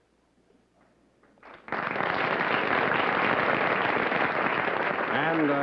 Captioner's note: applause